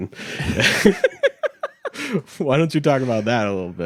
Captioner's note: laughing